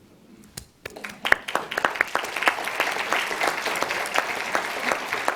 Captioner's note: audience applauds